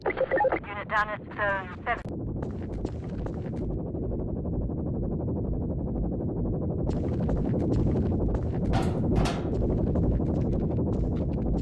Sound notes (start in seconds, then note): 2.2 Mortar Synth Hovers; 8.7 metal Footsteps; 9.9 Mortar Synth Hovers